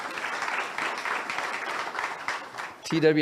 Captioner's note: audience applauds